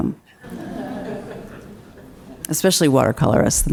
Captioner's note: crowd laughs